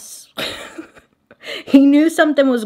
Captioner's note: laughs